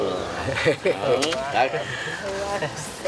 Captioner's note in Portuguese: risadas